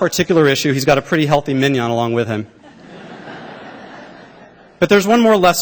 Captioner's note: laughter